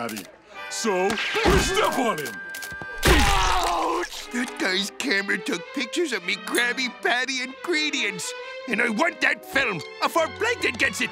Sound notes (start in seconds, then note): 3.0 screaming